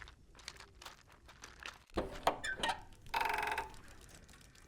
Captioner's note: door creaks open; toys and automata click and whir